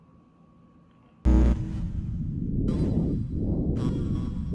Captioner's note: buzzing